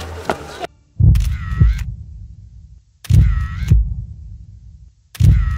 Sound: camera snapping

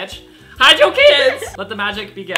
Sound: laughs

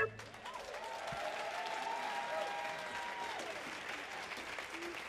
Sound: audience applauds and cheers

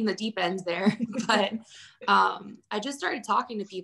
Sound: laughing

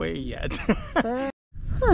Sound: laughs

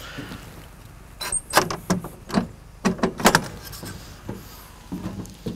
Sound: metal clanking

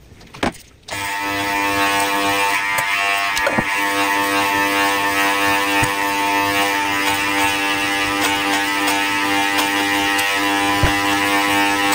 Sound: hair trimmer

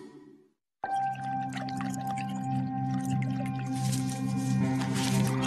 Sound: liquid bubbling

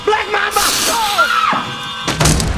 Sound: shrieks

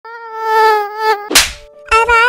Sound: mosquito sounds

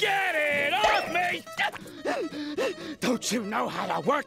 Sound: panting

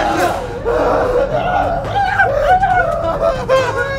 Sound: both yelp in fear

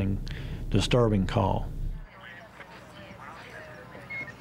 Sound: police radio chatter

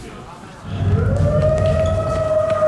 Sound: howl howl

